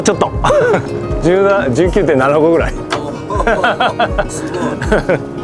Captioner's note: laugh